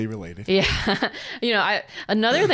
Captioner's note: laughs